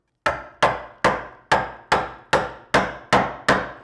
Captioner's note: mallet knocking